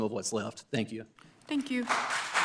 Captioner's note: applause